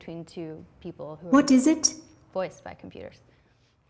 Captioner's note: voiceover